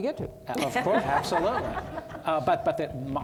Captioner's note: audience laughing